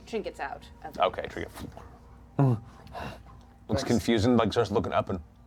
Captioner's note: bear grunt